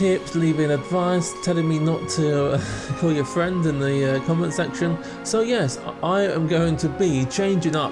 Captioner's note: laughs